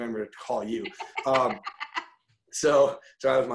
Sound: laughing loudly

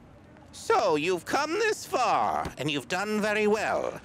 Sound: troll Voice

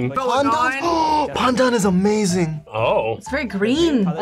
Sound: gasps

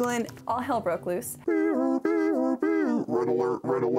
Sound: imitates music

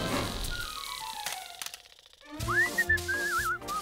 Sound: shaver rattles; Bugs whistling

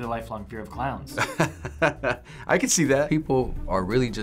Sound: laughing

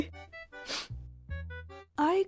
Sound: sniff

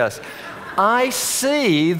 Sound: audience laughing

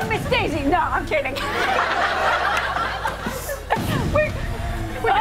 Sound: laughter

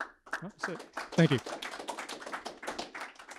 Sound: applause

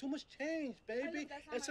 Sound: speaking in a foreign language

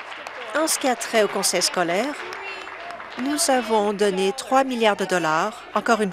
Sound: applause

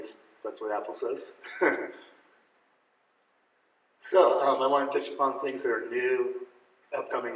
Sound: laughing

